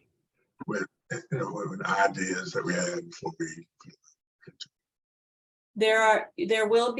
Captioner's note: distorted audio